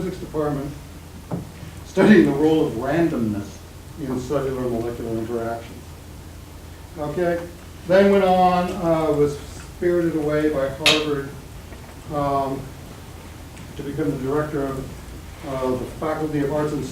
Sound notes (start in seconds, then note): none